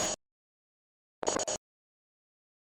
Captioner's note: Static